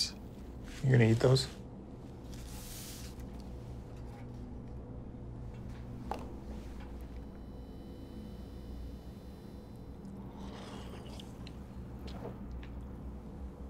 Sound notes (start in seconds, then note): none